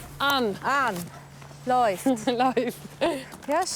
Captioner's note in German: Lachend